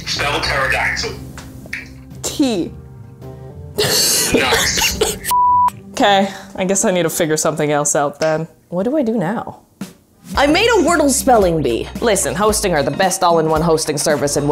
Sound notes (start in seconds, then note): 3.8 laughs; 5.3 beep